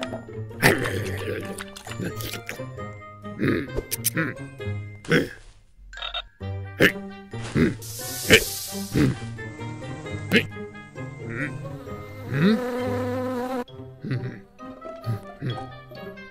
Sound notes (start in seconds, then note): 0.6 slurping; 0.7 growling; 5.4 frog croaking; 7.7 snake hissing; 9.5 grunts; 11.0 bee buzzing; 12.6 bees buzzing